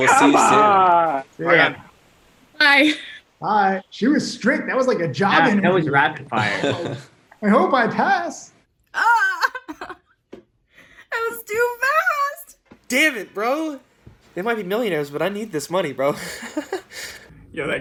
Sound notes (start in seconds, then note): 6.4 laughs